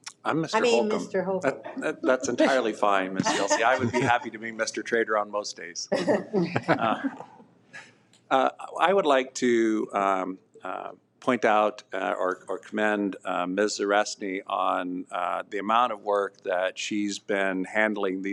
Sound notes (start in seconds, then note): 5.9 people laughing